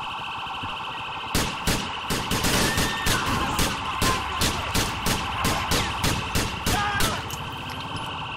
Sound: gunfire

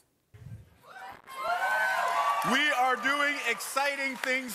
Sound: cheering and applause

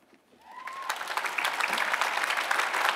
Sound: applause

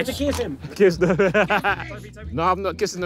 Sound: laughs

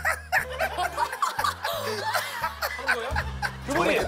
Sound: very mysterious laughter

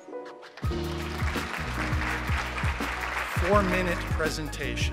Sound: audience clapping

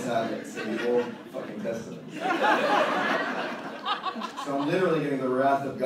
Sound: audience laughter

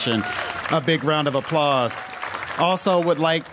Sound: applause

